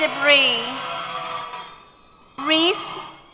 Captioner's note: cheers